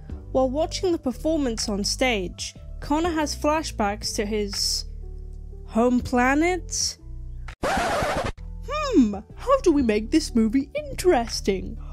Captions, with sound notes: While watching the performance on stage, Connor has flashbacks to his… home planet? [record scratch] Hmmm, how do we make this movie interesting?